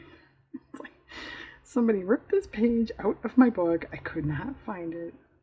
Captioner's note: laughs